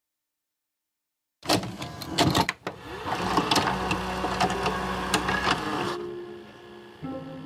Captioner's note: tape playing; dramatic music